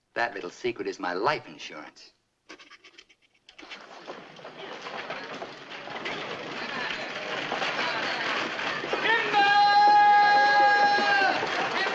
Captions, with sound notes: That little secret is my life insurance. [ HORSES CLOPPING ] [ BYSTANDERS CHATTERING ] Timber!